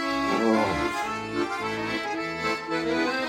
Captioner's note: playful music; grunts; playful music